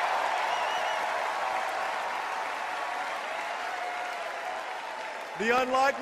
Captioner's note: applause